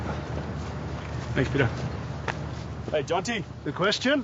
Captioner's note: slaps